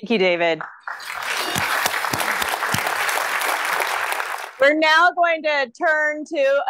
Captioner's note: applause